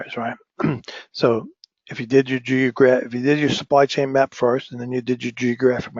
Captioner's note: cough